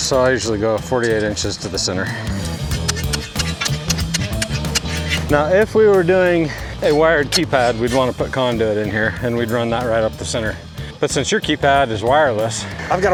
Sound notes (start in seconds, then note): 2.2 metals clanking; 2.7 upbeat music